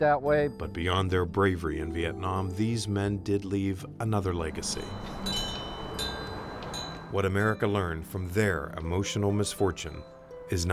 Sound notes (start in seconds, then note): 4.3 wind chimes tinkling